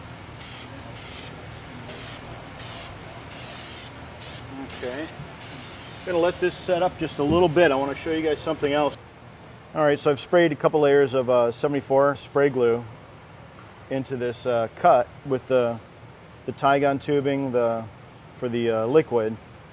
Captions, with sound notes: (spraying) Okay. You gotta let this set up just a little bit. I want to show you guys something else. Alright, so I've sprayed a couple of layers of 74 spray glue into this cut with the Tygon tubing for the liquid